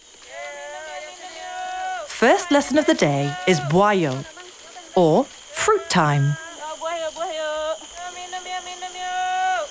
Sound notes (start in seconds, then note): 0.2 people shouting; 3.6 speaking foreign language